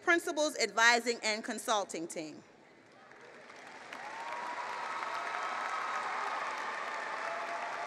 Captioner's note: applause